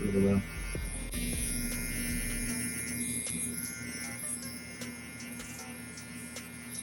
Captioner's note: slow groovy music; tattoo gun buzzing